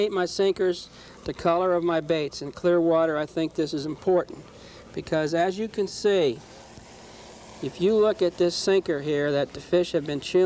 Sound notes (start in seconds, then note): none